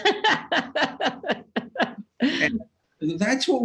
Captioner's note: laughs